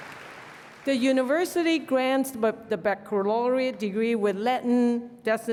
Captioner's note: applause